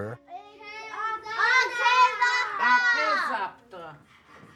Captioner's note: children shouting in Lakota